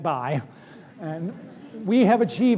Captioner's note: laughter